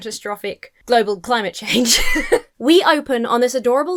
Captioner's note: laughs